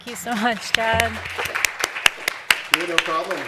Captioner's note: applause